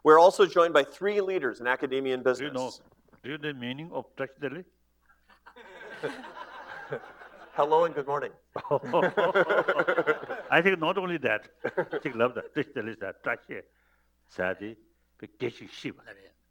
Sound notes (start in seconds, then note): 5.2 laughter; 11.9 foreign language